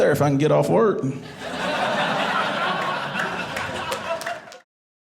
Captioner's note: audience laughing